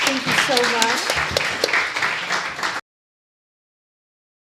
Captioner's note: applause